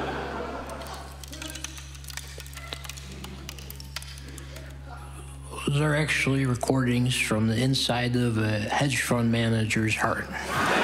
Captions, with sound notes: ['Prickly Icicle Freezing' Sound Effect] Those are actually recordings from the inside of a hedge fund manager's heart.